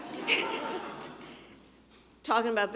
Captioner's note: laughter